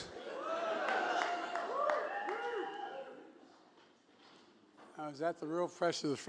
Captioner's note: applause